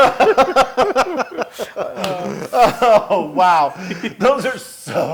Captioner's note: laugh